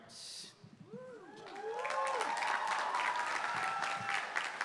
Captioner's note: applause